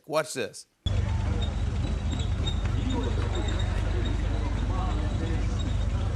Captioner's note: tank squeaking